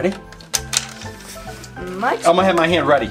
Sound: toy clicks

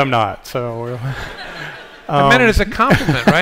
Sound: laughter

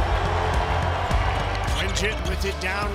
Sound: cheering

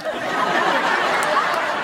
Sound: laughing

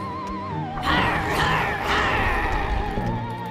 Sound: growling

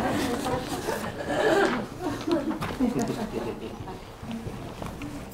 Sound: laughter

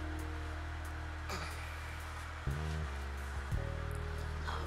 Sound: groaning

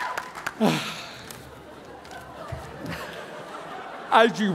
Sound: sighing

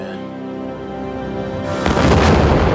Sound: dramatic music; logo explodes

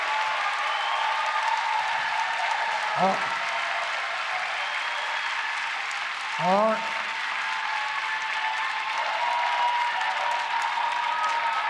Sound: cheering and APPLAUSE

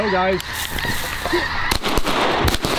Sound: gunshots

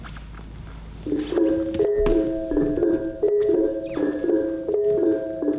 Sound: clip clop metallic sounds

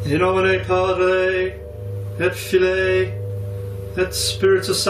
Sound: tense music; talking in foreign language

